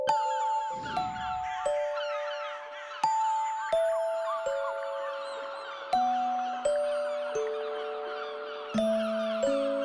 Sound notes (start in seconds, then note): 1.0 graznidos